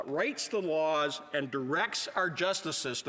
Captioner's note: none